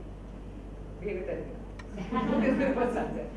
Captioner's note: audience laughs